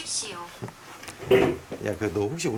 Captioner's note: crash